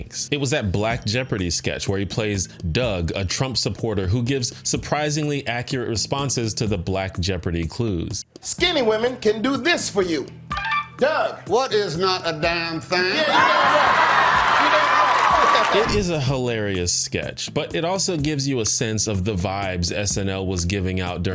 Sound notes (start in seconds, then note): 10.6 buzzer sound; 15.1 audience cheers